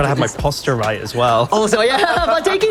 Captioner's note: laughs